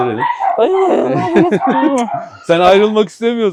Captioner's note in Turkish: Gülüşmeler